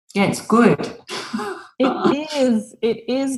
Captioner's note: chuckles